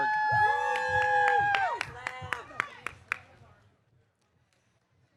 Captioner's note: audience cheering